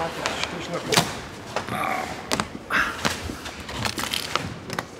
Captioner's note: hard groan, slide cracks